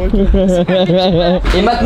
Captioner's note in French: rire